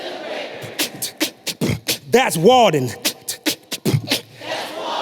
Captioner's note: beatboxing